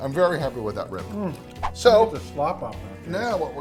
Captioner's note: swooshing; eating and talking